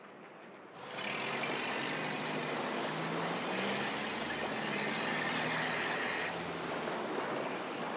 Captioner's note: engine humming, water splashing